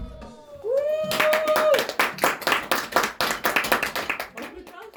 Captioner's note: audience claps